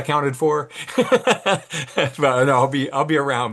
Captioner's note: laughs